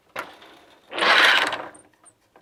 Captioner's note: noise of shuttle moving